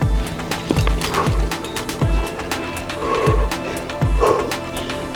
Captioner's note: breathing